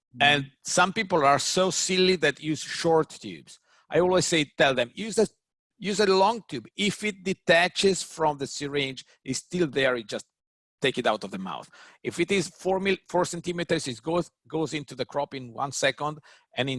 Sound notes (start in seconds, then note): none